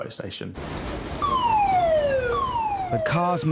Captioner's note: siren blaring